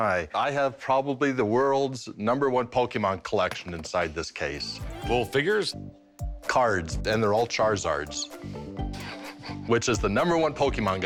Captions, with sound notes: I have probably the world's number one Pokémon collection inside this case. - The little figures? - Cards. And they're all Charizards. - [chuckles] - Which is the number one Pokémon guy.